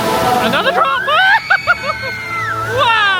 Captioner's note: screaming and laughing